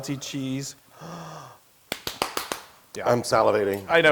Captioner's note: applause